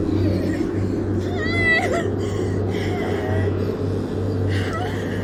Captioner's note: heavily breathing